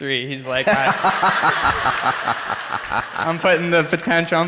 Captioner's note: crowd laughs; Dr. Dispenza laughs